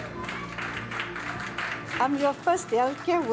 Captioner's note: applause